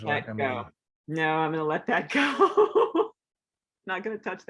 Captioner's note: laughs